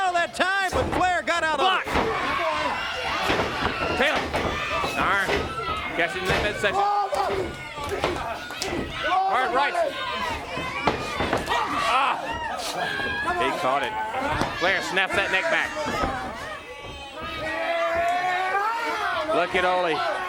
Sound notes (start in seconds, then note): 4.7 crowd cheering; 8.7 crowd chatter; 16.2 crowd chatter